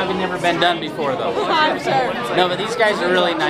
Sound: laughs

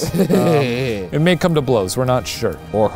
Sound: laughs

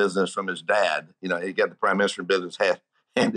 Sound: giggling

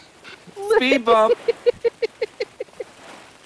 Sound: laughter

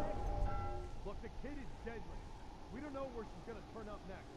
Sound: bell ringing

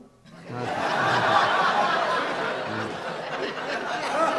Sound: audience laughs

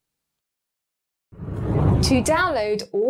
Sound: air whooshes

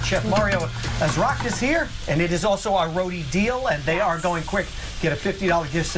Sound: sizzling

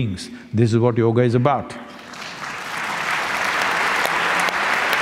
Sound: applause

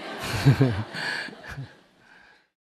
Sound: audience Laughter

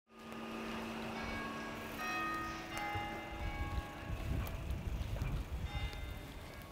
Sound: the sound of college bells ringing

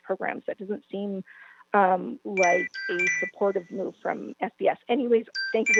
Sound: chime

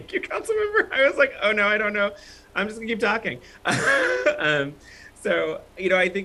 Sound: laughter

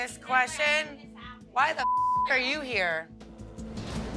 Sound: beep; tense music

